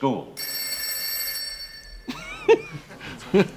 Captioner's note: telephone rings